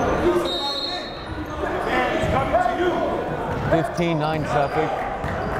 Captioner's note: whistle blowing